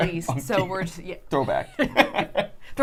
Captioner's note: laughs